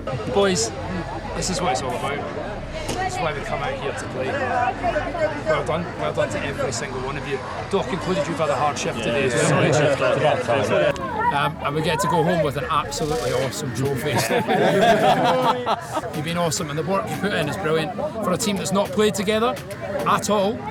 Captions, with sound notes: "Boys, this is what it's all about. This is why we've come out here to play. Well done!" "Well done to every single one of you! Doc included - you've had a hard shift today!" "And we get to go home with an absolutely awesome trophy." [laughs] "You've been awesome! And the work you've put in is brilliant!" "For a team that's not played together, at all!"